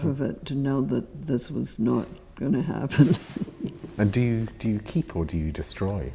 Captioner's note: laughs